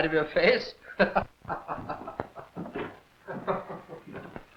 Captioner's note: laughing